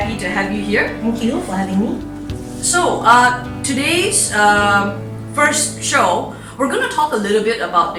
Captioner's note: pat